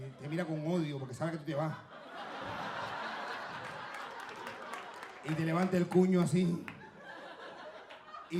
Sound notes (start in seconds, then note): 2.0 audience laughing; 5.2 speaking Spanish